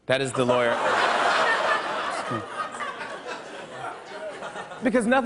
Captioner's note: laughter